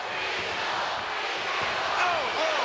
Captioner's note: audience chanting